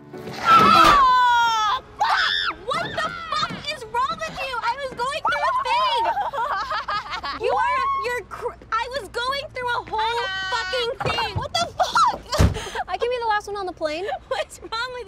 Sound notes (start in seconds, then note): 5.1 whoops and laughs; 7.1 stammers